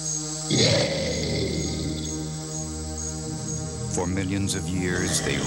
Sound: dinosaur roar

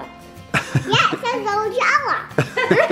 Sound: laughing

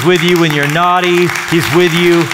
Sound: applause

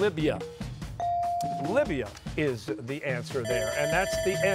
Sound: bell ringing

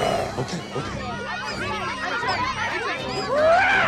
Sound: rats shouting and squeaking

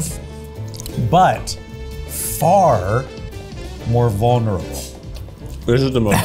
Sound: laughs

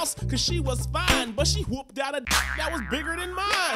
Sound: springs

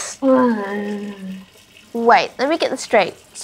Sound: groans

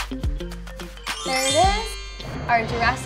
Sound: magical sound effect

